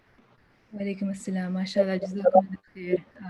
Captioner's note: non-english speech